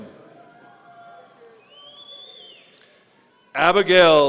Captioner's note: audience cheering